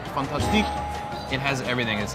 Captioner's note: bell dinging; speaks in foreign language